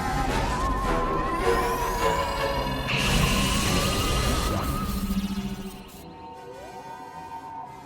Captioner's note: dramatic music; laser blazing; soft music